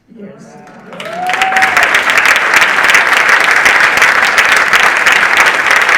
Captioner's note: audience cheering and applauding